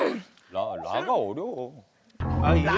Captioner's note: grumble